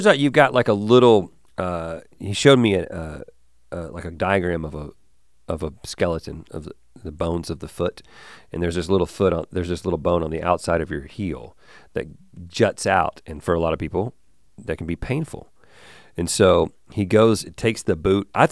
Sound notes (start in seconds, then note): none